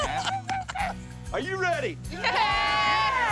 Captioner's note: group cheers